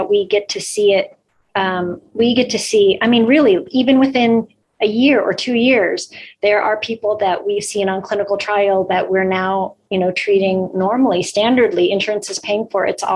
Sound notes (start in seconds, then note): none